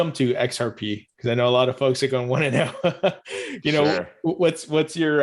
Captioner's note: laughs